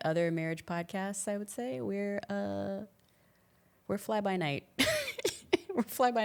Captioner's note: laughs